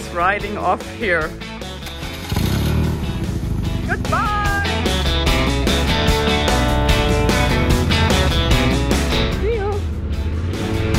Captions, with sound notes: - Look who's riding off here. (motorcycle roaring) - Goodbye. (upbeat music) - See you.